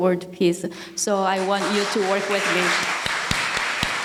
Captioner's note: audience applauding